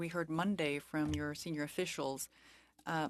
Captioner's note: speaking French